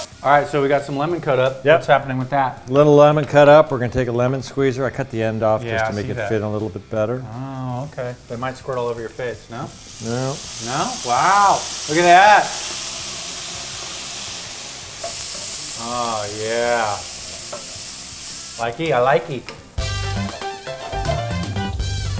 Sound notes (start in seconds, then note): 13.3 pan sizzling; 19.7 salsa music